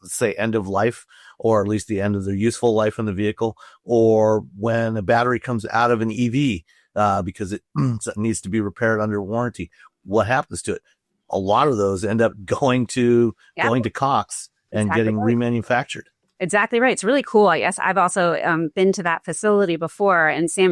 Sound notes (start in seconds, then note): 7.5 clears throat